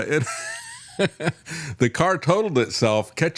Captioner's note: laughing